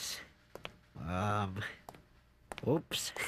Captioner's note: footsteps